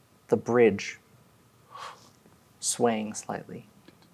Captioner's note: none